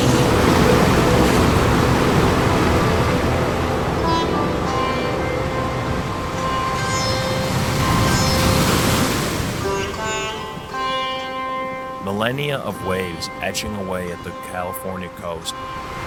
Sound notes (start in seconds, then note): 6.4 waves crash loudly